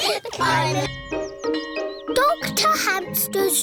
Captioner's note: all laughing; bell tolling